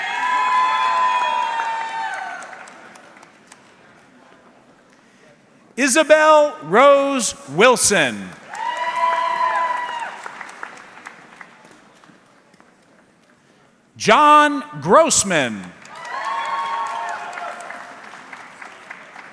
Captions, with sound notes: (audience cheering) Isabelle Rose Wilson. (audience clapping) John Grossman. (audience clapping)